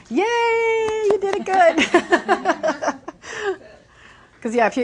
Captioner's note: clapping and laughing